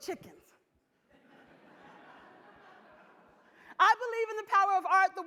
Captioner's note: audience laughs